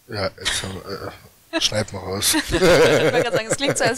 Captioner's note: laughter